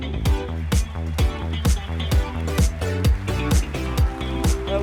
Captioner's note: applause